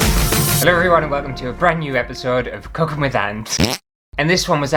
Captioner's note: intro Music; fart!